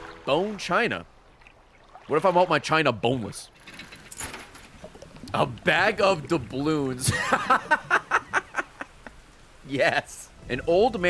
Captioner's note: laughs